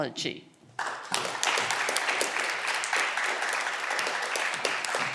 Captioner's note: audience clapping